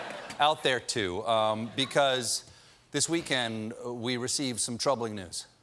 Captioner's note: laughter